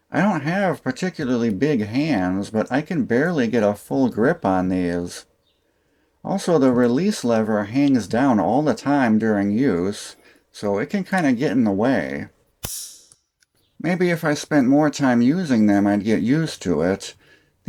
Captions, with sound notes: I don't have particularly big hands, but I can barely get a full grip on these. Also the release lever hangs down all the time during use, so it can kinda get in the way. [click] Maybe if I spent more time using them I'd get used to it.